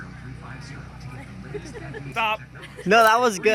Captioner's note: laughing